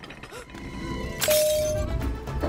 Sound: glass shatters

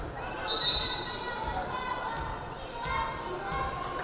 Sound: whistle blaring

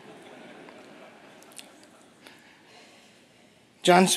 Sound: laughter

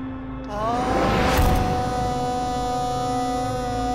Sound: emotional vocalising

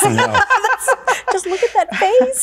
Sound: women laughing

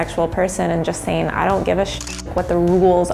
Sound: shutter clicks

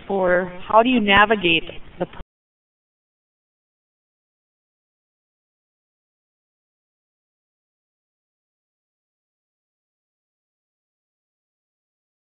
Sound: lost audio

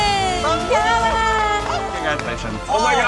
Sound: group claps

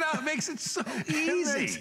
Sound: laughter

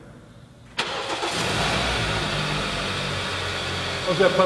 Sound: car Starting

